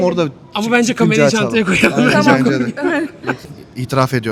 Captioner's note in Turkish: kahkaha